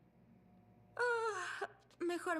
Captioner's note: yawn